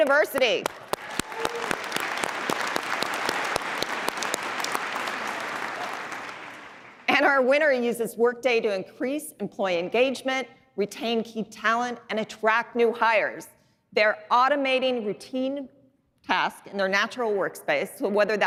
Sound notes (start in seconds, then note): 3.7 applause